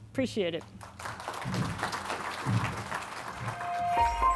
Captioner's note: audience claps